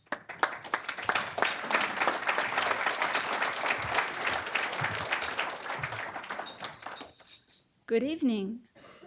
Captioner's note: applause